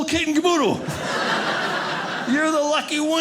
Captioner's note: audience laughing